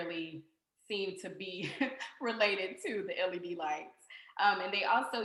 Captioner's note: laughter